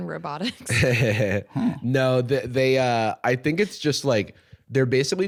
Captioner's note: laughs